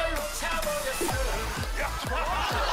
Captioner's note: laughter